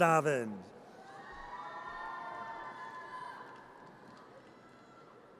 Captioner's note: audience cheers